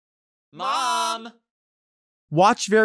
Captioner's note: crowd